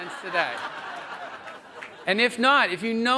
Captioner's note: audience laughs